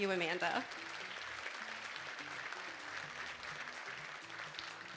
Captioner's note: audience applauding